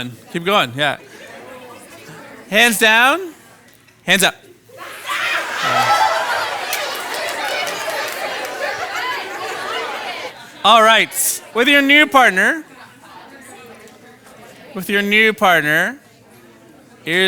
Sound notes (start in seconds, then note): 4.7 participants cheering